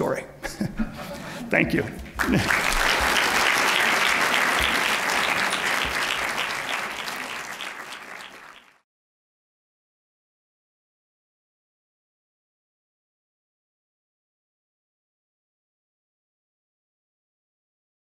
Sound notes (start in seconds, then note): 2.0 applause; 2.2 laughs